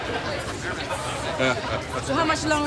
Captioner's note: chuckling